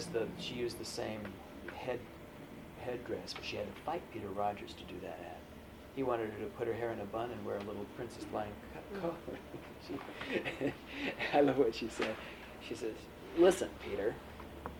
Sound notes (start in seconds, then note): 8.9 laughter; 14.5 laughs